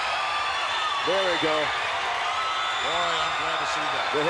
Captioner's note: crowd cheers